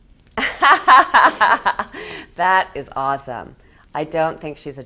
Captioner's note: laughs